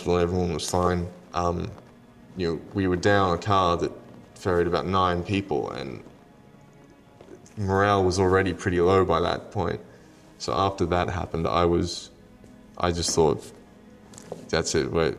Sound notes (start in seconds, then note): none